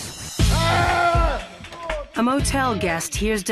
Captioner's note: screaming